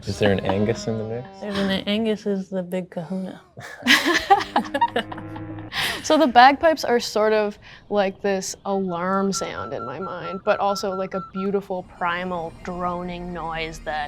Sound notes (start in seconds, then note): 0.0 laugh; 3.7 laugh; 8.8 alarm beeps